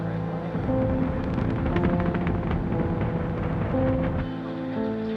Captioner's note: rocket roaring